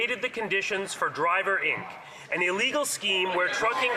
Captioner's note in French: voix de l'interprète